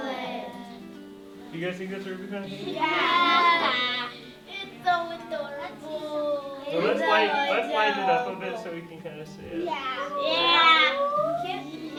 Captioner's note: classroom chatter